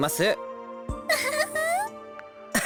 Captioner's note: chuckle